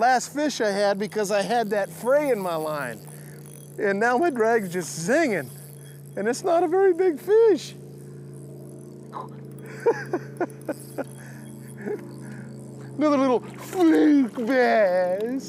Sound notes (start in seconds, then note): 9.7 laughs